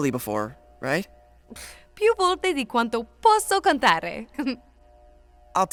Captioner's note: speaking italian